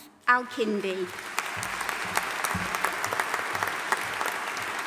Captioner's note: audience applauding